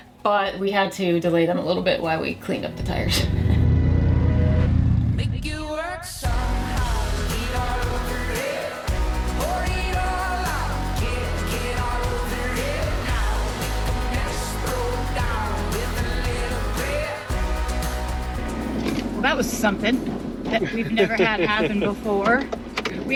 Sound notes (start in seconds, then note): 2.8 bike engine roaring